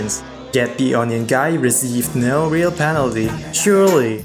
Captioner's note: booing crowd sfx